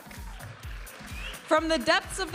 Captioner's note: audience applauding and cheering